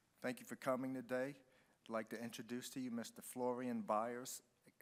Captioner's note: none